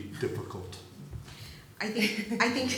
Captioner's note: laughs